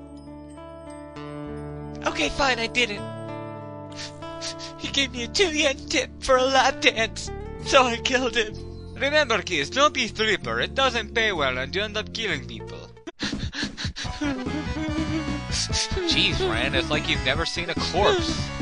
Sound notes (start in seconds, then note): 4.4 sob; 13.7 Ran crying throughout